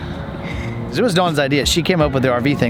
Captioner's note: laughs